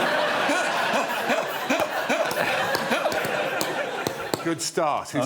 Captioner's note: laughter